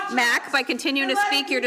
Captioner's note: shouting